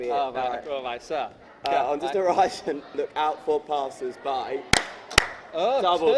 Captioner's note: clap